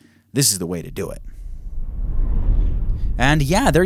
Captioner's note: dramatic noise